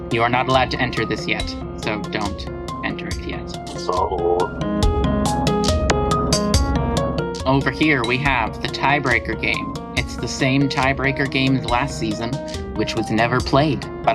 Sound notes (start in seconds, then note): 3.6 disappointed noises